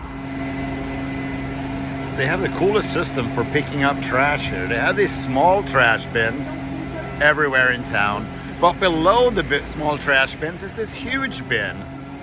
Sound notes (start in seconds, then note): 0.8 vehicles whirring